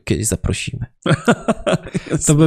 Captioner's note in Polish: śmiech